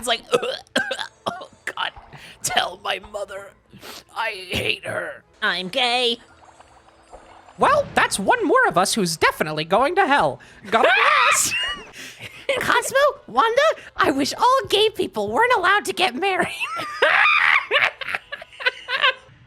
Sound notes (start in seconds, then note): 0.3 dying choking sounds; 5.6 Spongebob voice; 10.8 scream laughing; 12.7 Timmy voice; 18.4 cackling